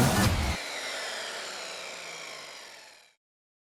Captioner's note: saw buzzes